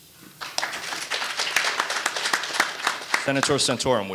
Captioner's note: audience applauding